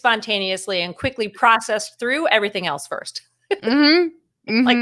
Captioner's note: chuckles